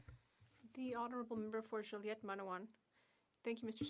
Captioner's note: speaking French